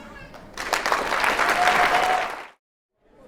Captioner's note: applause